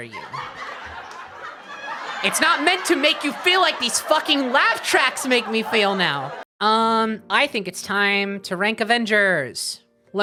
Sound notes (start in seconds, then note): 0.0 sitcom laughter; 4.0 laughter continues